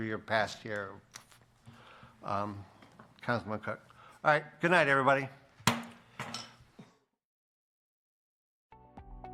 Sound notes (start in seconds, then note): 5.6 bangs gavel